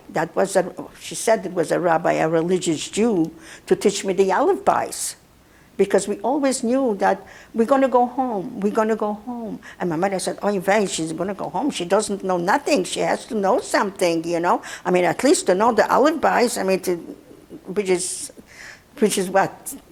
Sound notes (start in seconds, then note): 4.7 yiddish; 16.4 yiddish